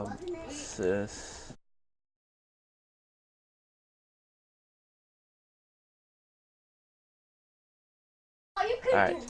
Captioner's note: silence